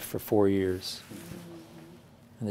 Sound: murmuring

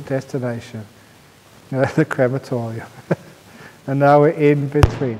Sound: chuckle

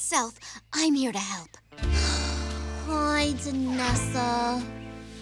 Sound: sighs sadly

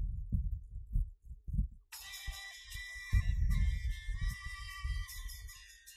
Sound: mobile Phone Ringing

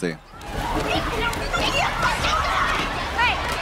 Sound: students rumbling

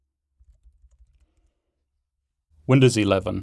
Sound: keyboarding clanking

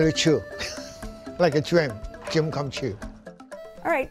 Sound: laughs

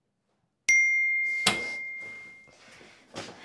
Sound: text message alert

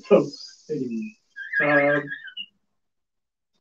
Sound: whistles

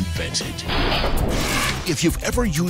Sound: swift mechanical sawing

